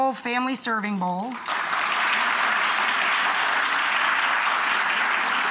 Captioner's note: audience clappiNg